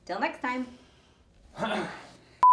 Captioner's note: clears throat